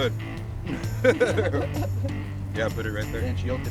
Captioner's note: laughter